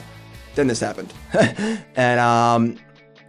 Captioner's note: laugh